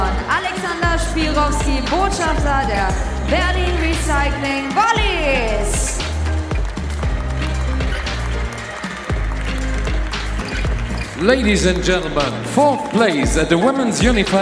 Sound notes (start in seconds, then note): 5.9 applause; 6.4 ♫ Midtempo guitar music ♫